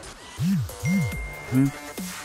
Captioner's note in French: iPhone ding